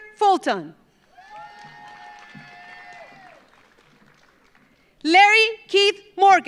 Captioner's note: audience applauds; audience cheers